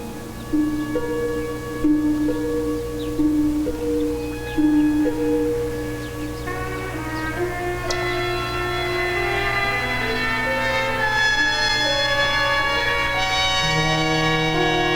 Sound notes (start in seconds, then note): 0.7 birds chirping; 1.8 dramatic music